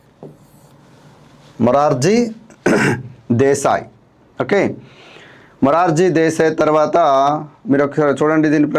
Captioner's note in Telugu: గొంతు సవరించుకోవడం